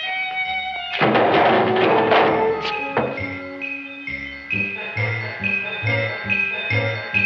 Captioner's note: can clanging